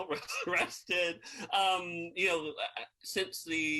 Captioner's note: laughs